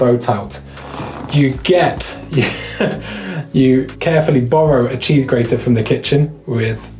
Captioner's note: laughs